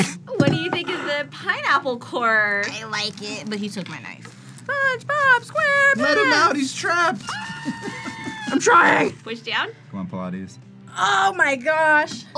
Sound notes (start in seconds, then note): 7.2 laughs; 7.2 SpongeBob screams